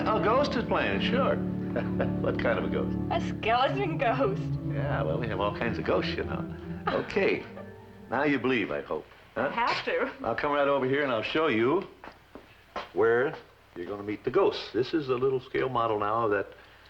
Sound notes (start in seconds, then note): 1.4 chuckles